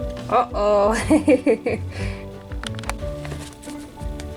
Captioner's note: laughs